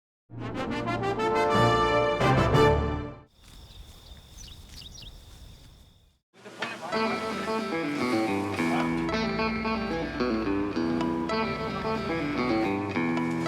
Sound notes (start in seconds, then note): 0.3 dramatic music; 3.3 insects chirping; 6.5 country guitar music